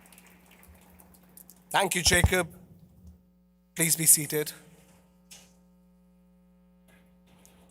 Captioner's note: applause